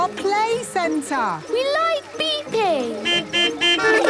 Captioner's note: horns beeping